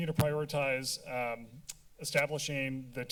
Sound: tongue clicking

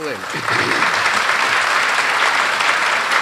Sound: applause

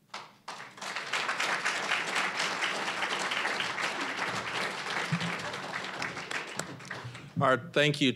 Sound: applause

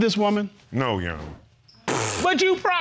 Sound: blows raspberry

